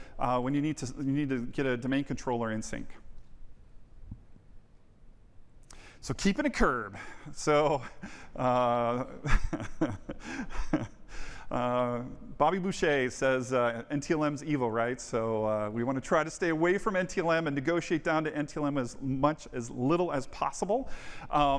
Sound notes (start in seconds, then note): 9.2 laughter